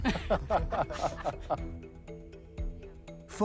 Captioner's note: laughter